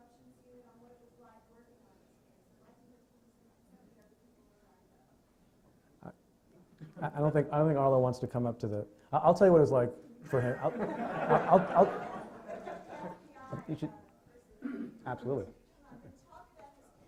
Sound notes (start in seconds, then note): 10.3 laughing; 12.2 stutters